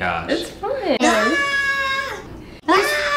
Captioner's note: screams